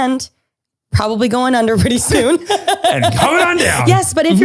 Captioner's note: laughs